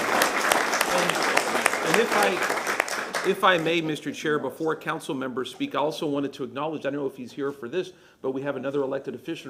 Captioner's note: applause